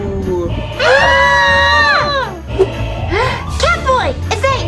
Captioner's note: spooky voice; screams